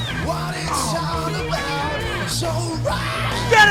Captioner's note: moans